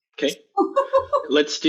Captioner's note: laughter